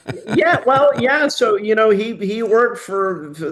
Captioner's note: laughing